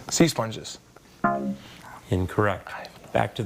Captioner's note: scoreboard buzzes